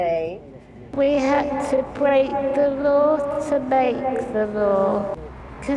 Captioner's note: reverb & echo effect